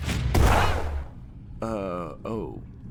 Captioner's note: chair blasting